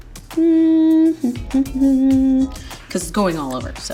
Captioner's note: humming